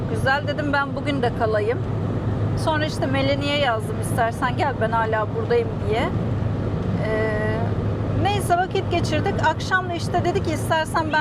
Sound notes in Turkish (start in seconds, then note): none